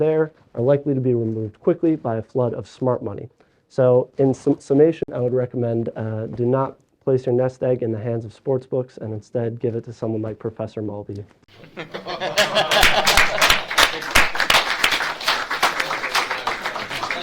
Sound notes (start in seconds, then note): 11.5 all laugh; 11.6 audience claps